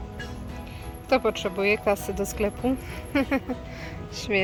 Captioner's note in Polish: śmiech